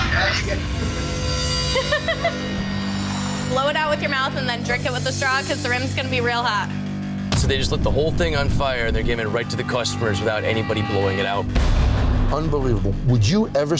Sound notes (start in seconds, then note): 0.2 dramatic music; 1.7 bartender giggling